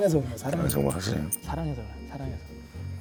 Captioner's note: haha